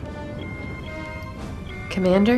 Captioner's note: alarm